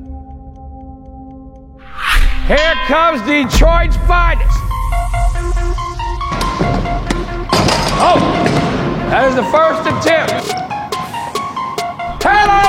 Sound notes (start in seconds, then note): 4.7 upbeat music; 6.5 ball bouncing; 7.3 dunk sound